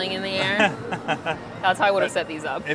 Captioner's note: laughs